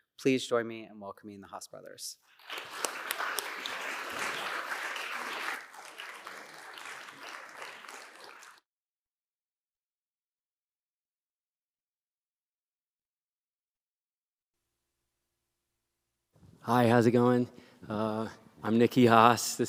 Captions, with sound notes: Please join me in welcoming the Haas brothers. [APPLAUSE] Hi. How's it going? I'm Niki Haas.